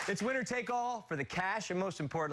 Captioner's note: cheers and applause